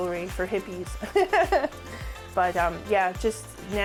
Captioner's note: laughs